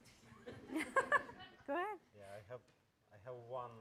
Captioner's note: laughing